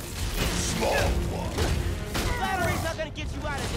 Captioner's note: fists thudding